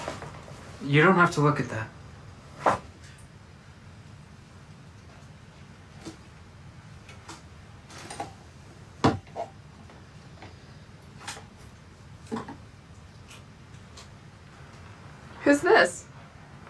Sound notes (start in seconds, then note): none